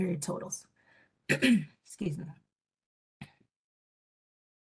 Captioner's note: coughing loudly